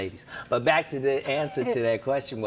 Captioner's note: laughs